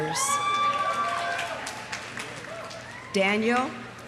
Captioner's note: audience cheering; audience applauding